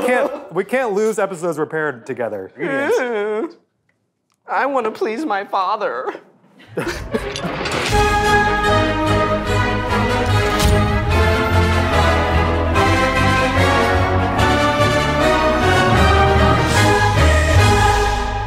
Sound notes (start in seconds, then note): 6.6 laughing; 8.6 intense music playing